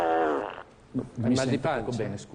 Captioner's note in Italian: rumore di peto